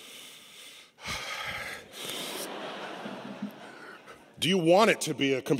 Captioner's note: laughter